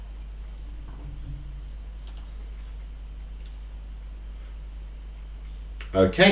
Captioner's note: clicking on screen